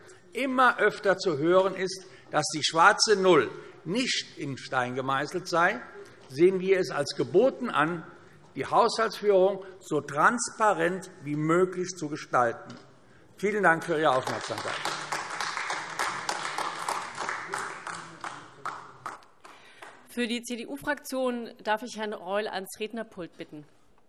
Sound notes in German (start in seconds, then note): 13.8 Beifall AfD